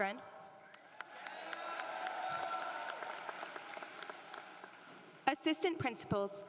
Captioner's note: applause